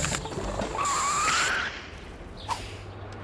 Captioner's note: tires screech